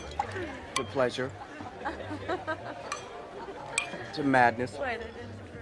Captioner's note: Pat laughs